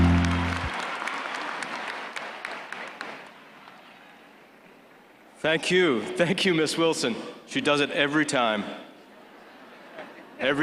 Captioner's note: applause